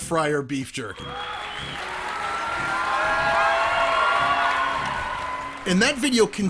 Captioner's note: clapping and cheering